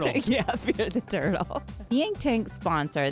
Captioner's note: laughs